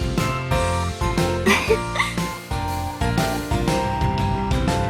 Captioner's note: hehe